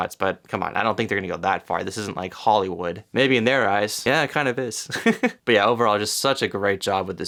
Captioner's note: giggles